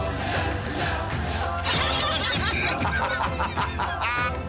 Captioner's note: laughter